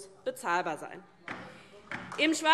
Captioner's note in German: Beifall DIE LINKE